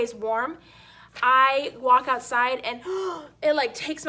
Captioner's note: inhales